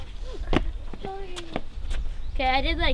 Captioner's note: feet stomping